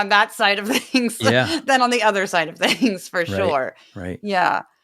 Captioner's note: laugh